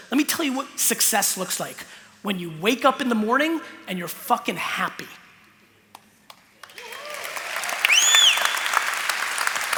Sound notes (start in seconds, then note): 6.6 applause